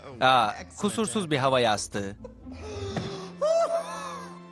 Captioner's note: laughing continues